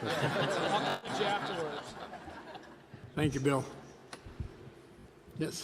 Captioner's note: laughter